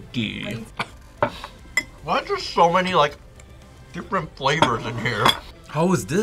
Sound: coughs

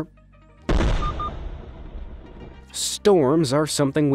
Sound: lightening explodes and something beeps

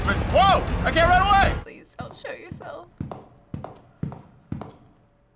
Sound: footsteps

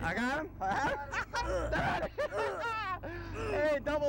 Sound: laughter

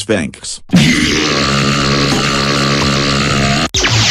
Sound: BND Giant Burps Sounds

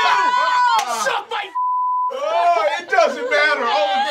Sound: beep

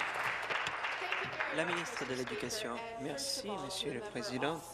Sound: applause

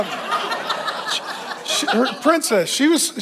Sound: congregation laughs

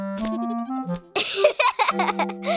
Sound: giggling

